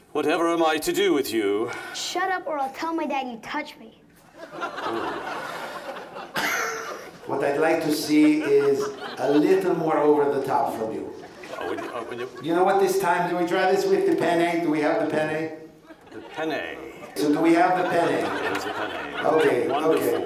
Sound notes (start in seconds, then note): 6.3 triumph coughs